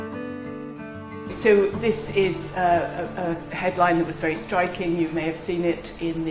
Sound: voiceover

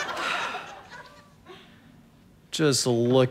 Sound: audience laughter; sighs

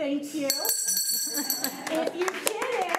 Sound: bell ringing; crowd giggling

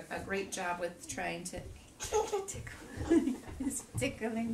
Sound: baby chuckles

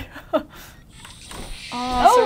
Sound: chuckles; cat hisses

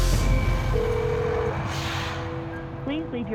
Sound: phone rings

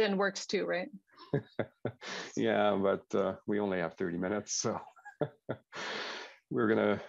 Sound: laughs

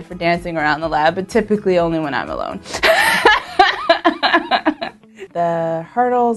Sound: laughs

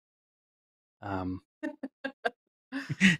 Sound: laughs

